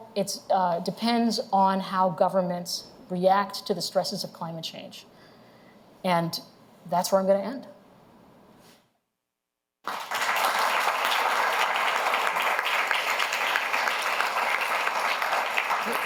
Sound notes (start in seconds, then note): 9.8 applause